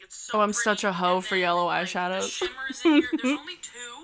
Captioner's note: chuckles